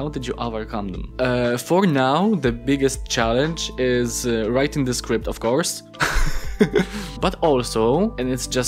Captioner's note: laughs